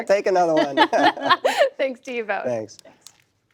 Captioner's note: laughter